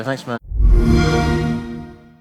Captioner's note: xbox sound